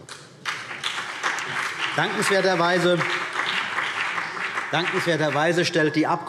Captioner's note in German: Beifall CDU und BÜNDNIS 90/DIE GRÜNEN